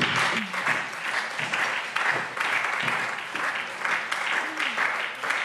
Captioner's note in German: Beifall SPD